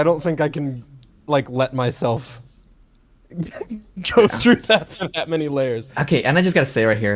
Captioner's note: laughs